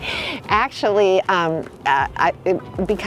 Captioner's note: laughs; stammers